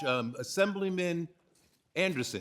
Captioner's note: ringing bell